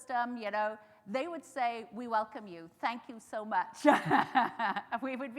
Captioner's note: laughs